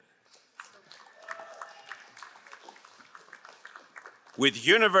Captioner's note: crowd applauding